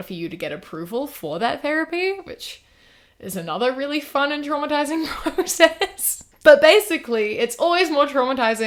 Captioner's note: laughs